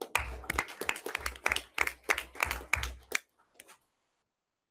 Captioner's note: everyone applauds